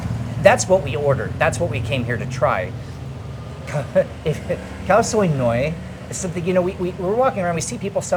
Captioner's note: laughing